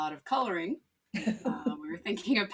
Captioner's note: laughs